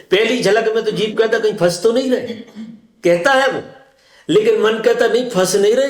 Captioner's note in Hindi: गला साफ़ करने की आवाज़